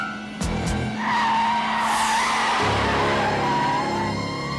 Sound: tires screech

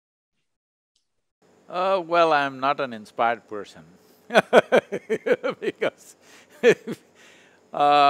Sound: laughs

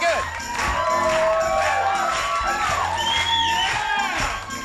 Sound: audience cheering

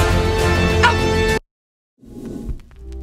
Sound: exciting music; imitates dog barking; laughs; graphics whooshing

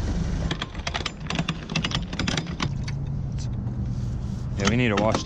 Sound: lever clicking

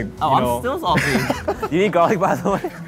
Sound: laughing

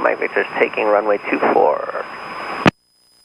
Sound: radio voice

